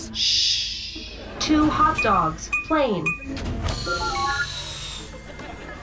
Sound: beeping

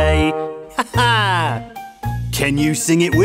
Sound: teacher laughs

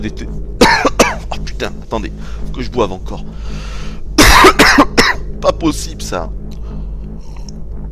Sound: cough

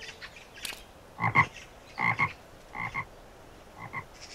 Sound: frog croaking

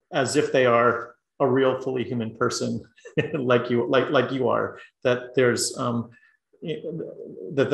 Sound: laugh

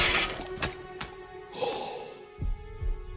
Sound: gasp

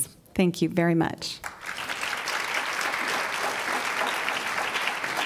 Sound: applause

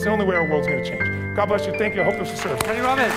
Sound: voiceover; clapping

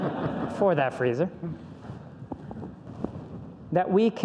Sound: audience laughs

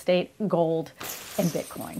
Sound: coins clinking

